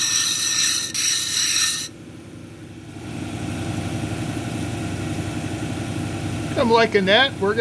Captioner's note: grinding rock